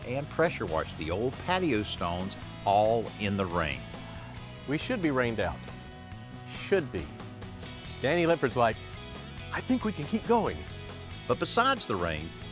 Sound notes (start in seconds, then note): none